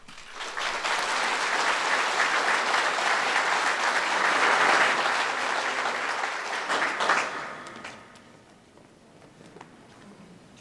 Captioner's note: applause